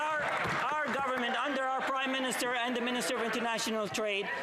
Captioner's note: some Applause